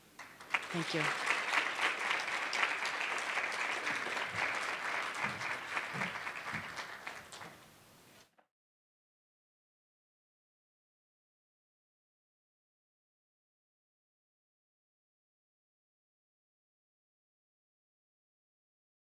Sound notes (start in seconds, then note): 1.9 clapping